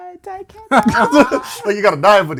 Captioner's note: laughter